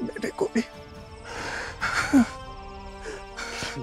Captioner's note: Kohli gasps